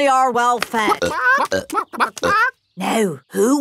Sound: clucking

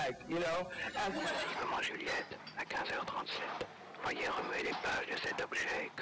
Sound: narrates in foreign language

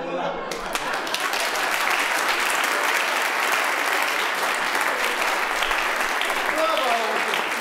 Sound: applause

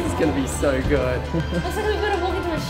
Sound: laughs

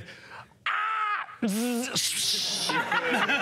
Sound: spraying noises; screams; laughter

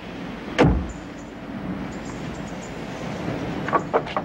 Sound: birds chirping; door slams

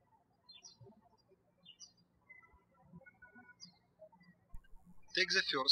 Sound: birds chirping

